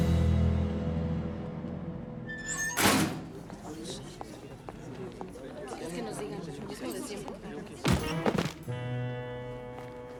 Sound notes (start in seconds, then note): 2.3 door squeaks and closes; 3.8 indistinct murmurs